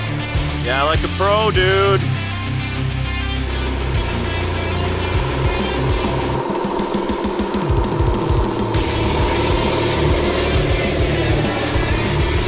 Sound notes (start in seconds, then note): 2.2 fast-paced rock music; 3.8 machinery engine revs; 9.1 fast-paced rock music